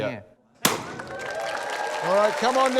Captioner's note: bang!; cheering, applause